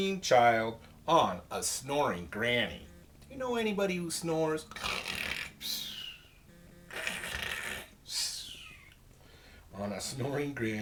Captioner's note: makes snoring noise